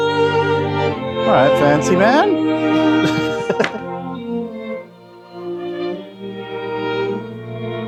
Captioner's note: laughing